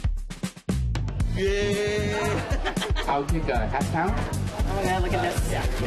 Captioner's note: laughs